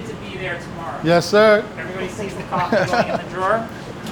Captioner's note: laughs